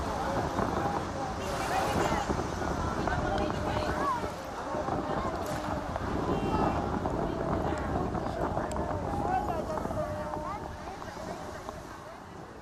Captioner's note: non-english speech